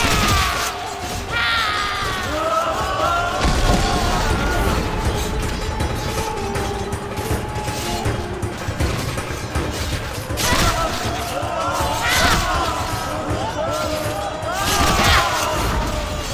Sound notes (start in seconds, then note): 3.0 thudding; 11.8 screams; 14.3 thudding